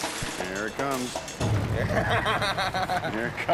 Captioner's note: laughing